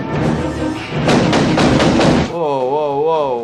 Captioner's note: gun firing